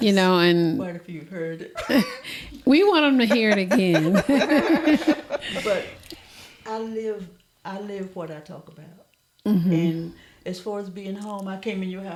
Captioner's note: laughter